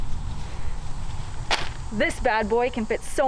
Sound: bag crinkles

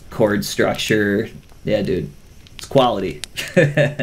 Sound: laughs

